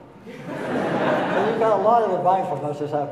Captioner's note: audience laughing